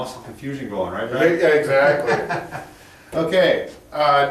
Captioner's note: laughs